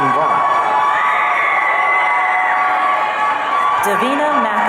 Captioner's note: audience cheering